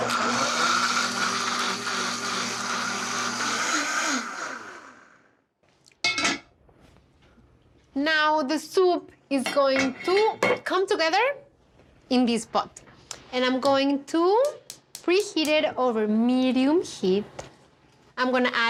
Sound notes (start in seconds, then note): 0.0 blender whirs